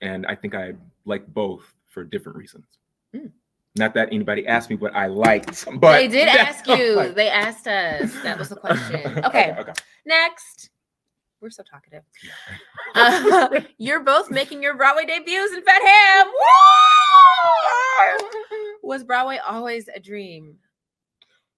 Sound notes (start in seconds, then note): 15.9 both exclaim